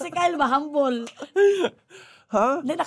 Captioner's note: laughing